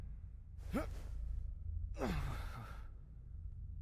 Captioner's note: grunts softly